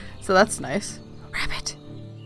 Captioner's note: quietly